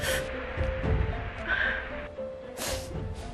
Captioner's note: sobbing